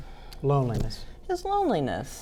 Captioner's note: pat